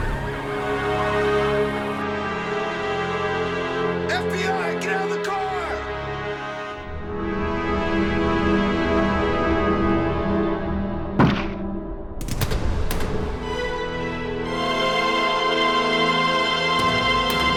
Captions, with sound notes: (dramatic orchestral music) - FBI, get out of the car. (gun firing) (dire music)